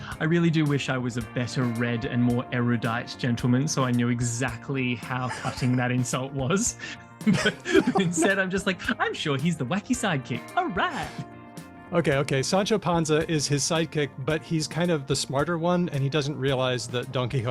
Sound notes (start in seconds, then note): 7.2 chuckles